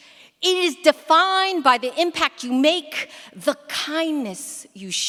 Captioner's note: none